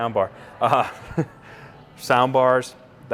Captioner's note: laughs